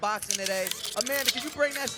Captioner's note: paper rustling